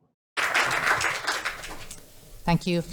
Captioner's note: audience applauding